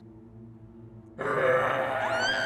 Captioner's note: Jane whimpering; leprechaun growling; Jane screaming